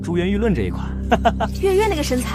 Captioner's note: chuckles